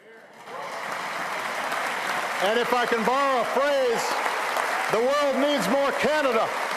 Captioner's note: applause